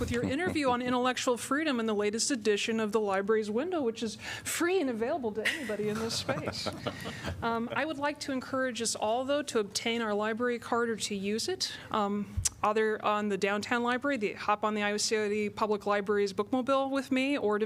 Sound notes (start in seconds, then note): 5.4 laughter